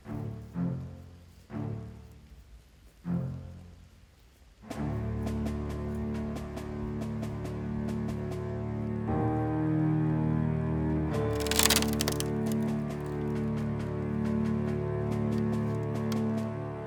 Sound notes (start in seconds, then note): 11.3 wood creaking